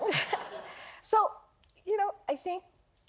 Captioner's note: laughter